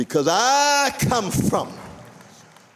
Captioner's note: applause